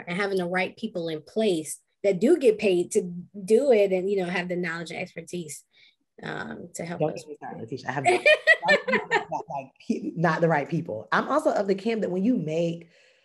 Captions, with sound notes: And having the right people in place that do get paid to do it and, you know, have the knowledge and expertise to help us with that. (laughs) - They are not the right people. I'm also of the camp that when you make,